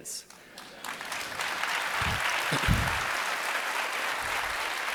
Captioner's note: audience applauding